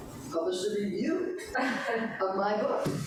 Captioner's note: questioner laughs